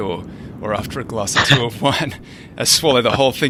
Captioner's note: both chuckling